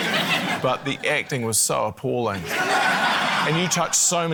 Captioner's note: laughter